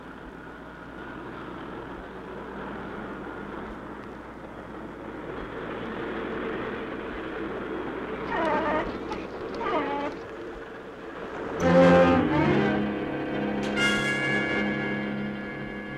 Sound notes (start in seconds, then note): 1.4 trains rattling; 8.2 dog cooing; 11.5 intense music